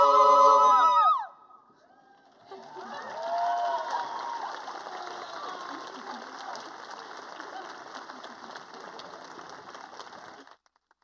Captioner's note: applause